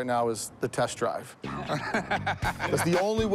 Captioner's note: Rick laughs